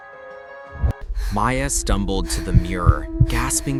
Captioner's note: heartbeats grow louder, whispering voices overlap